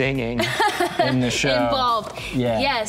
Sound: laughs

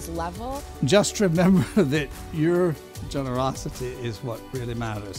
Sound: laughs

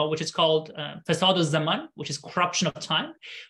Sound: speaking arabic

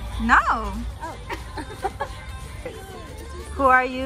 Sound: sisters giggle in sync

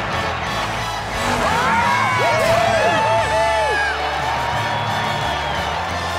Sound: cheering

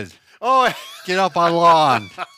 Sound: laughs

